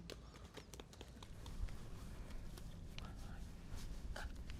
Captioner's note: hands tapping